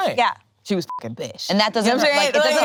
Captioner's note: beep